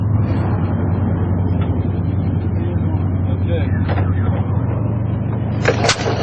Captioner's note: engine noises